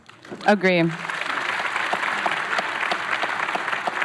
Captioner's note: applause